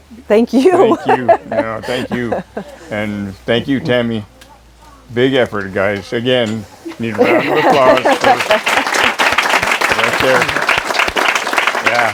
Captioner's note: applause